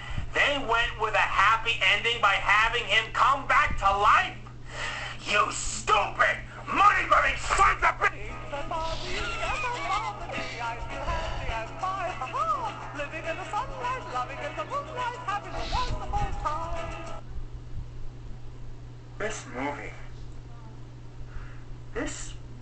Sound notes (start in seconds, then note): 12.2 please excuse the sound of my wheezing laugher. I apologize for that